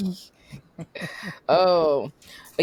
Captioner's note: laughter